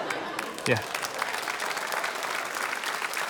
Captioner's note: applause